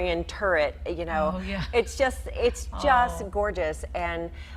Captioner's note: laughing